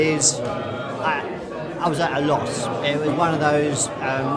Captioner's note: laughs